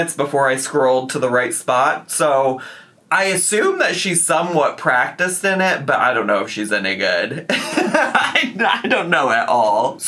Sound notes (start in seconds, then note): 7.4 laughs